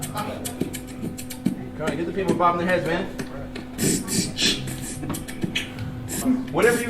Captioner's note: beatboxing